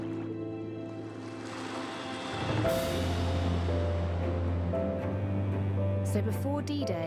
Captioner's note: mournful music; water sloshing